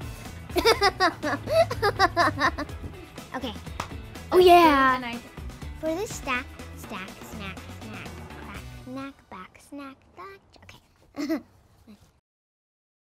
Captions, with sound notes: [LAUGHS] OK. Oh, yeah! For this stack-- stack, snack, snack. Crack, knack, back, snack, back-- OK. [CHUCKLES]